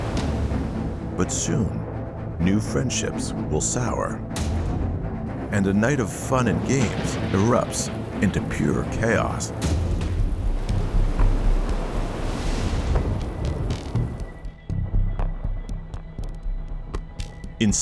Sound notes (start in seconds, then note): 11.4 thunder rumbling; 11.4 waves crashing; 13.8 suspenseful music